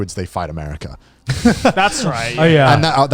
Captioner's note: laughs